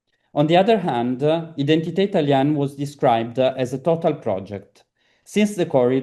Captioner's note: italian